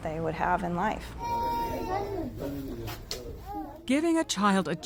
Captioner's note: child crying